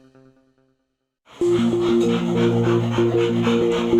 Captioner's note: dog panting